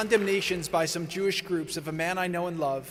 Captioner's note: applause